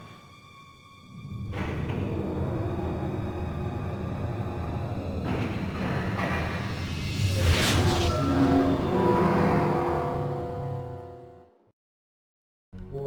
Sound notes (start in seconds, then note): 0.1 explosion; 10.5 ominous music